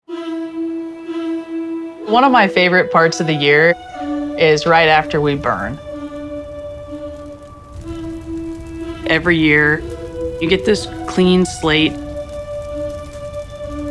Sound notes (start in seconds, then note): 0.2 inspirational music; 7.0 flames sizzling